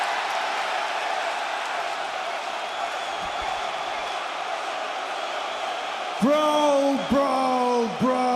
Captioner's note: crowd cheering